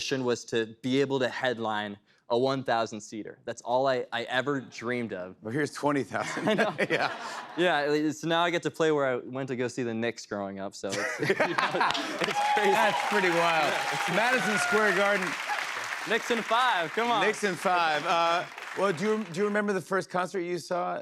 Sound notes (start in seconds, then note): 12.7 cheers and applause